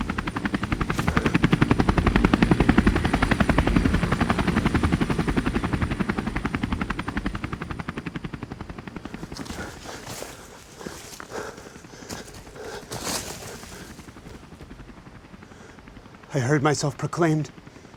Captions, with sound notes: (helicopter approaching) (helicopter blades fading) - I heard myself proclaimed.